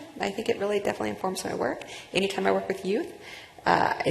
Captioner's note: none